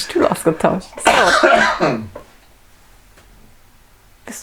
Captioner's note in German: Hustet; Aus dem Off